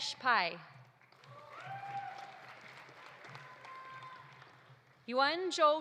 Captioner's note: audience applauding; audience cheering